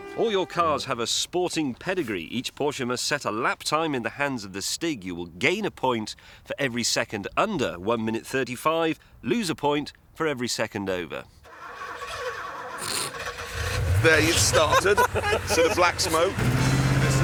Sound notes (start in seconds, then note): 11.5 car engine sputters